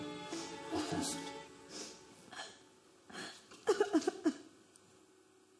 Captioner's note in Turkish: Ağlıyor